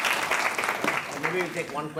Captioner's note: students applauding